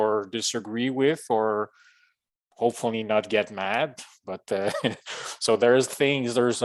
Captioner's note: chuckles